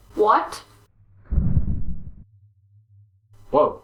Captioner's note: rumble!